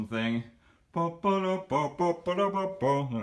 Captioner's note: hums theme from Attack on Titan